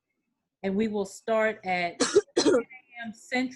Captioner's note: attendee coughing